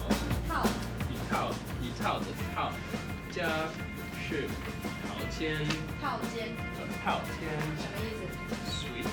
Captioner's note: speaking Chinese